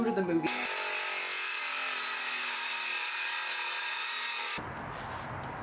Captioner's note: circular saw noises